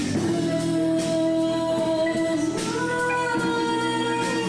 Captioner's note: woman slow humming